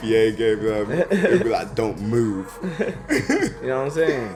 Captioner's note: laughs